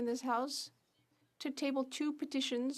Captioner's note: speaking French